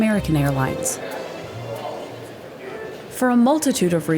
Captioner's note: customers chattering